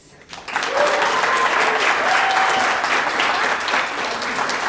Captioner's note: applause